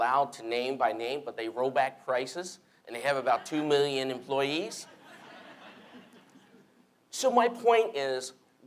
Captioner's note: laughter